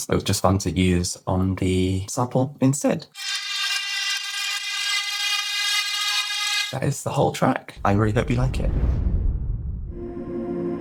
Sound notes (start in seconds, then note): 3.1 driving metallic whir